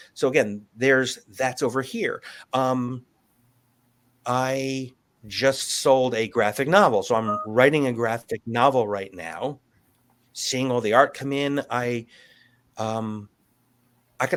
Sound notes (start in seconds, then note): none